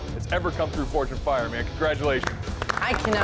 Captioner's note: applause